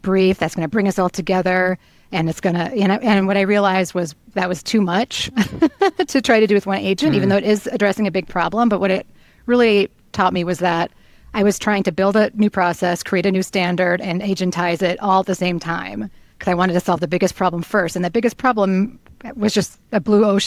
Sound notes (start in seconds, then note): 5.3 laughs